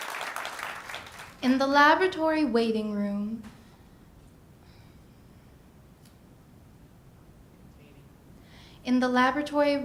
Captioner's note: ^applause^